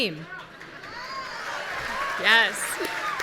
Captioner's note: audience cheering